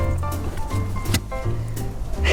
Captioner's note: thunk